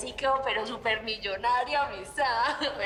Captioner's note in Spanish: Risas